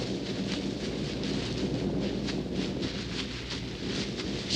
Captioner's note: thunder rumbling